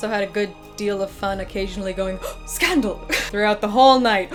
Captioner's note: gasp